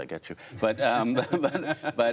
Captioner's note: laughter